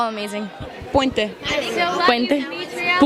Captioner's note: in spanish